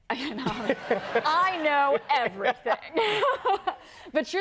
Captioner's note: laughs; laughs